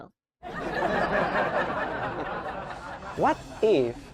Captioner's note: audience laughing